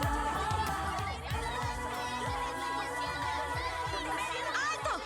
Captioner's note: arguing continues